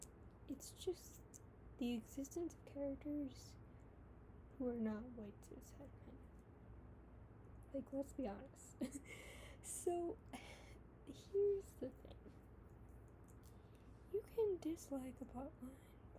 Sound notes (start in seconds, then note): 8.8 laughs